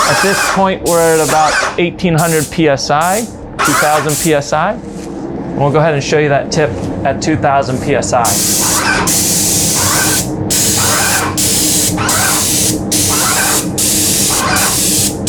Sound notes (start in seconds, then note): 8.2 spray gun hissing; 8.2 sprayer whirring